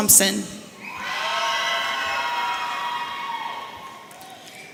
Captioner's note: audience cheering